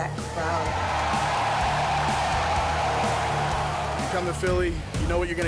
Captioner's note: crowd cheering